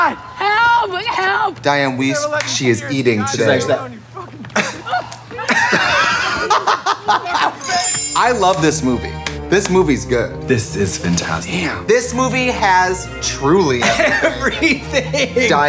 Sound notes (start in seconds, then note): 4.2 laughing; 4.4 movie chatter; 7.6 chimes